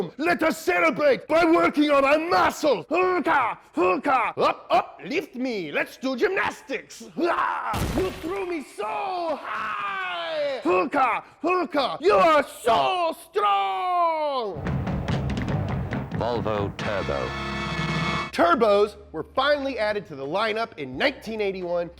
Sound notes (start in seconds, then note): 7.8 crash; 14.6 percussive music